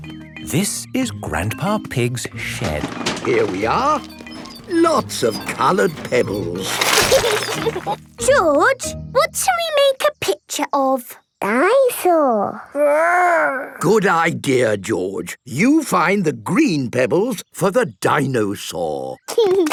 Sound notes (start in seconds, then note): 2.0 bangs and rattles; 6.9 laughing